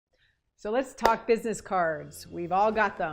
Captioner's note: clapping